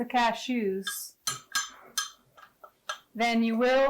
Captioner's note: glass jar and spoon clacking